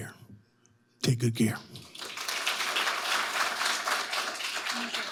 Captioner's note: audience applauding